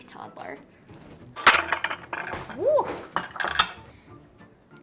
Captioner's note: cutlery clanks